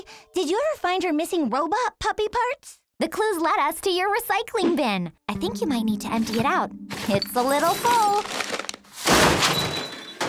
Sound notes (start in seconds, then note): 6.9 bottles clinking; 6.9 paper rustling; 7.8 crash